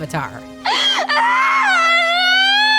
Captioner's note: crying